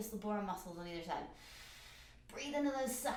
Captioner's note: breathes in